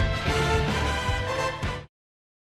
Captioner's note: players shouting